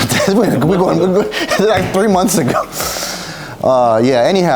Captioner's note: laughing